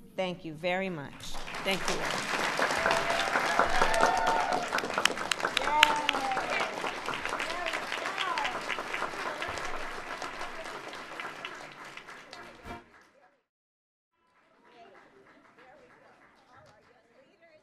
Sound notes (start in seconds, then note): 6.5 applause